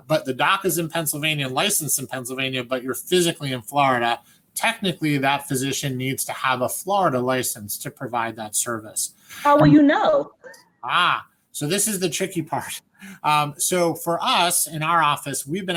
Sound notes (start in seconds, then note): 10.8 laughs